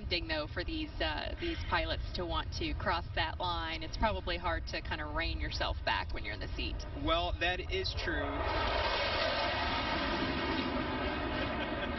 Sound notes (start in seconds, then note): 5.8 laughter